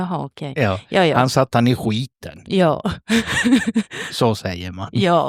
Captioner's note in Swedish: skratt